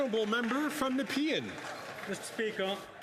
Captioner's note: some Applause